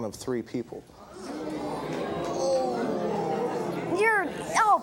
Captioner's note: audience groaning